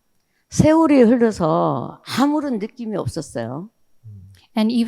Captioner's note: speaking in foreign language